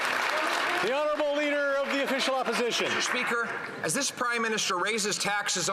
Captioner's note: some Applause